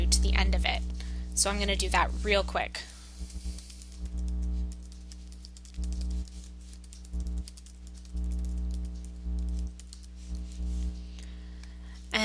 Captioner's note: sounds of typing